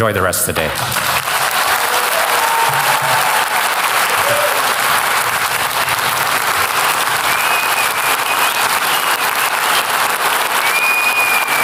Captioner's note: applause